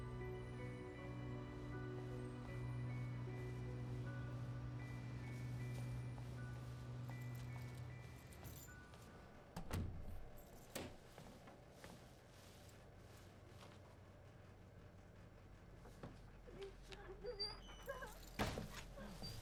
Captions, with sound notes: (keys clink) (door closes) - Please don't do this. Don't.